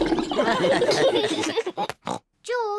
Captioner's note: all laugh